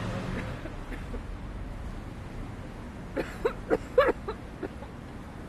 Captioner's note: street din; vigorous coughing